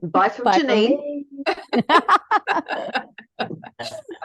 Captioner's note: all are laughing